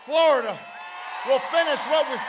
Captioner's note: applause